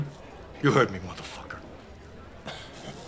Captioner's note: chuckles